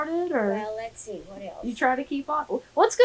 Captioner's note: laughs